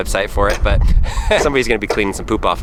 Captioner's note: laughs